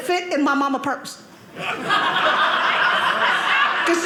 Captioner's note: audience laughing